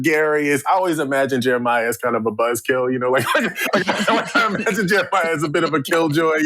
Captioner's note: laughter